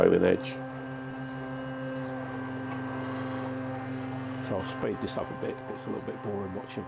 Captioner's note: machine running noise